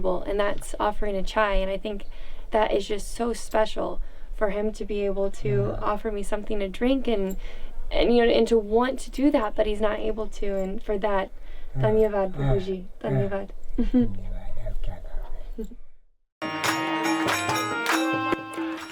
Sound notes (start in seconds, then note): 12.1 speaking foreign language; 16.4 upbeat music